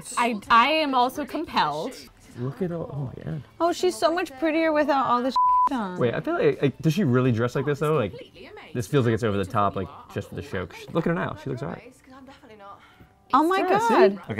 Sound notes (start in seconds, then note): 5.3 beep